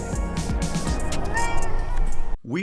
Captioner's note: meow